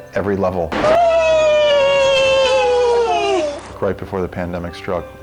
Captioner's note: both cheering